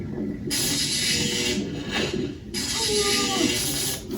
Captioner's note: electricity crackling